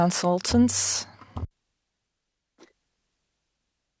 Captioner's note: speaking french